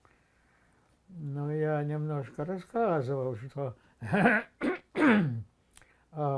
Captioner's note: clears throat